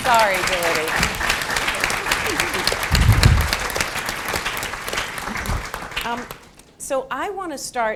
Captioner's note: applause